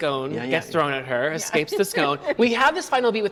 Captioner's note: laughs